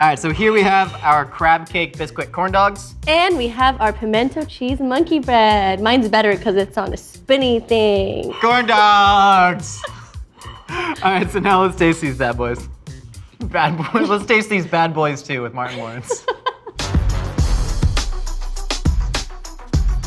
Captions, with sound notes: - All right, so here we have our crab cake Bisquick corn dogs. - And we have our pimento cheese monkey bread. Mine's better 'cause it's on a spinny thing. - Corn dogs! All right, so now let's taste these bad boys. Bad boys, let's taste these Bad Boys Two with Martin Lawrence. (laughing) (upbeat music)